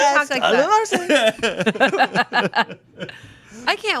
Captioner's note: chuckling